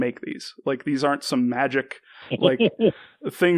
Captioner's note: laughs